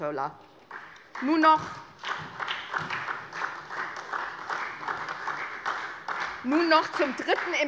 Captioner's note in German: Beifall SPD